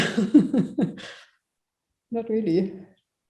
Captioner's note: chuckles